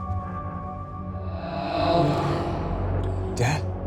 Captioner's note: ghostly Voice